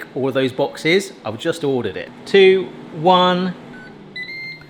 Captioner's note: beeps